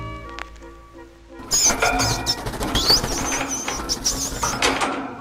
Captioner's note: bird chirping frantically